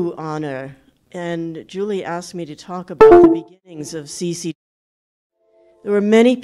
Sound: loud computer sound

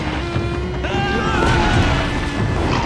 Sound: screaming

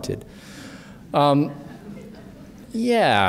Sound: chuckling

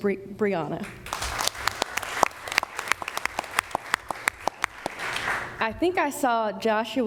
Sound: applause

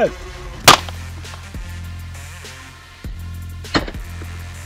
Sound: hummer thuds

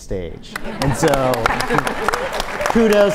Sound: audience applauds

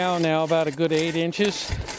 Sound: scraping sound

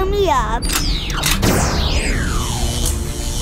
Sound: laser charging; electrical shocking

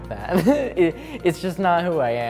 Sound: laughs

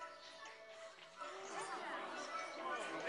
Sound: kids chattering

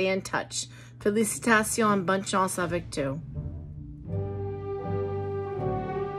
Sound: speaking in foreign language

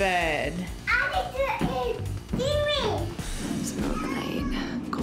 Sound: child babbling

